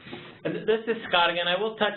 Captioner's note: voiceover